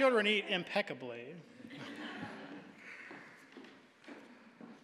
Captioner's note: audience laughing